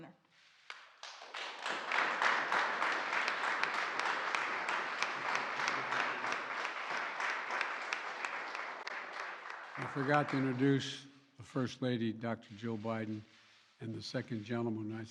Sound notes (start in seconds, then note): 0.6 applause